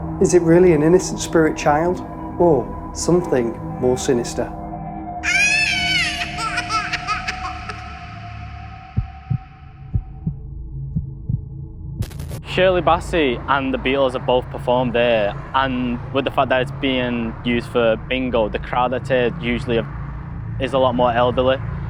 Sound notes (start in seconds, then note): 5.2 baby crying